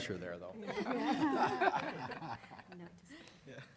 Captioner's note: laughter